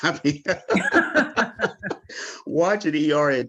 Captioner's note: panelists laughing